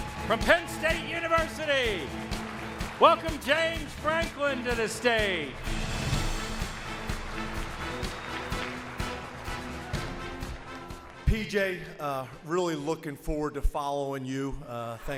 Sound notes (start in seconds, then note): 0.0 audience applauds; 0.0 dramatic music; 6.2 audience applauds; 6.2 dramatic music